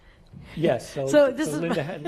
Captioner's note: laugh